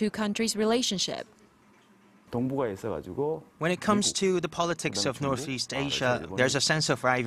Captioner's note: Korean